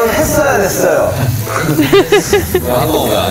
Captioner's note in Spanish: Ja ja